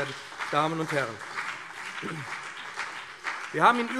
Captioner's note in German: Beifall BÜNDNIS 90/DIE GRÜNEN und CDU